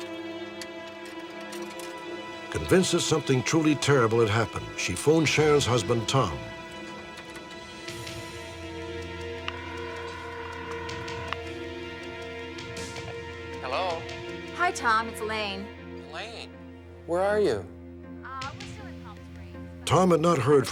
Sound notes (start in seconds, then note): 9.4 phone ringing; 13.6 on phone